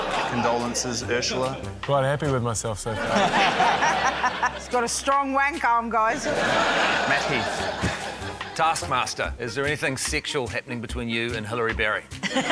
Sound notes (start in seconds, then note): 2.9 laughter; 6.4 laughter; 12.2 laughter